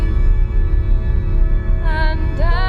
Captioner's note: low rumbling